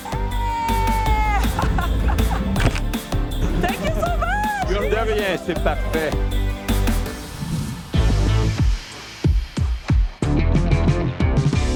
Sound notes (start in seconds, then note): 1.2 laughter; 2.6 camera clicks; 7.7 upbeat music